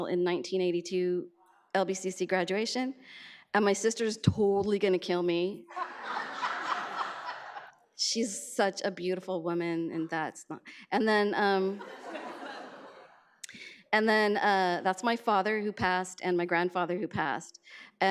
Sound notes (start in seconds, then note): 5.7 audience laughs; 11.8 audience laughs